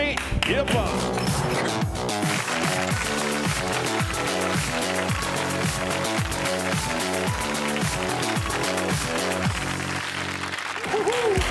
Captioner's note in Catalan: aplaudiments